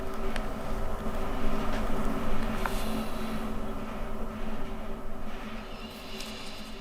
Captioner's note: pen softly scratching